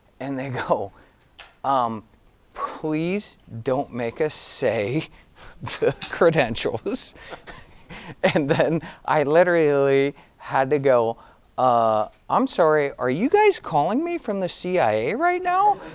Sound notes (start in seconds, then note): 5.6 giggling